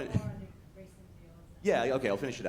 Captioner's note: speaks faintly